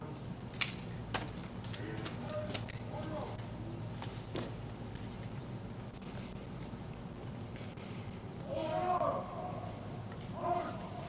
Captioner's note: shouted commands